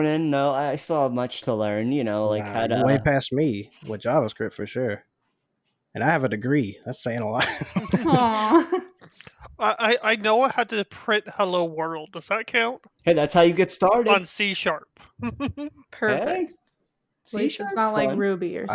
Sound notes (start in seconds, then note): 7.3 laughs; 15.1 laughs